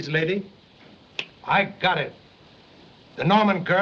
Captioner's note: snaps Fingers